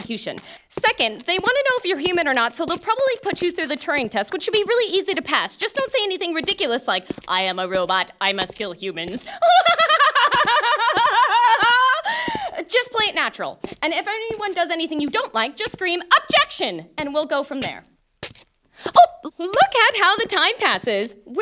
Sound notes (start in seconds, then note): 9.4 laugh